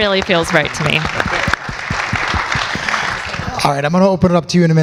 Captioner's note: audience continues applause